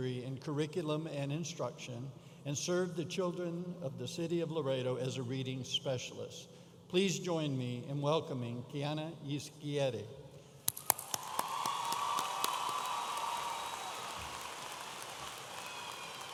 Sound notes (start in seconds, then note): 10.7 audience applauding and cheering